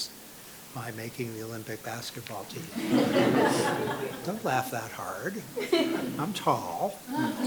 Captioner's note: laughter